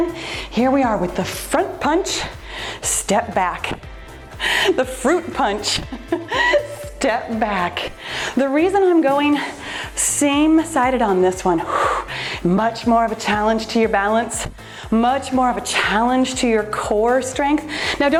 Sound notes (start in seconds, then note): 5.8 giggles